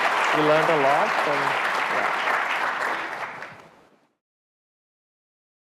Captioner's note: audience applauding